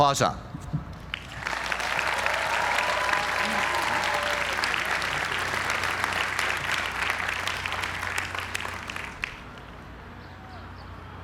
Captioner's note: applause